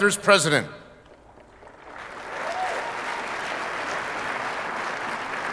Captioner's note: audience applauding